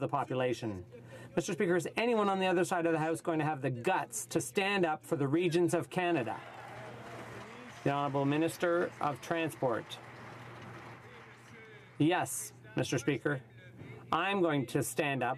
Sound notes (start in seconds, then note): 9.0 some Applause